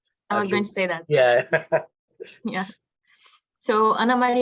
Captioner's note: laughs